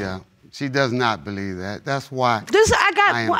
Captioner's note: stammering